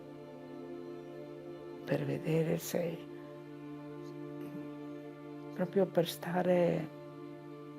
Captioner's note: continues speaking in foreign language